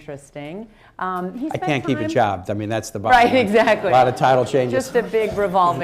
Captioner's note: laughter